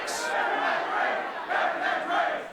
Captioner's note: fans chanting